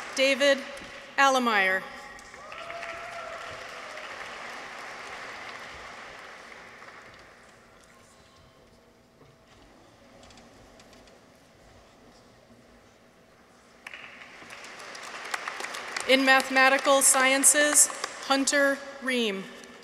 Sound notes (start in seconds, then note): 2.1 people cheer; 2.1 audience applauds; 13.8 audience applauds